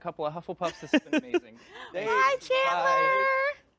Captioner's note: laughs